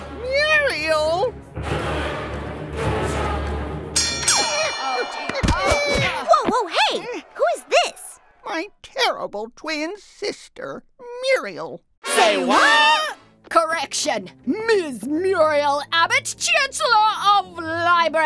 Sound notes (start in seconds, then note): 1.4 dramatic sounds; 3.9 fight bell